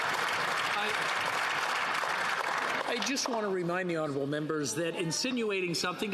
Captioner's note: some Applause